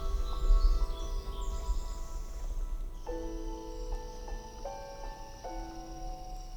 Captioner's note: birds chirping; light music